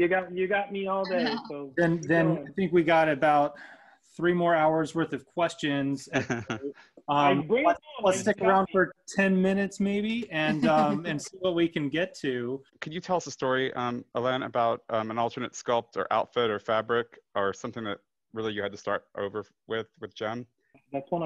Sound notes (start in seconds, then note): 6.2 moderators laugh